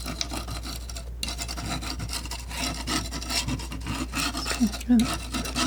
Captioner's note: scratching